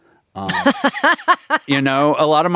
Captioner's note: laughing